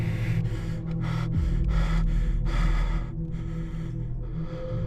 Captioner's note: heavy breathing